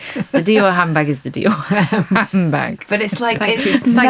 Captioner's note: laughing; laughs